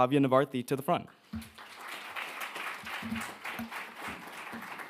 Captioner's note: crowd applauding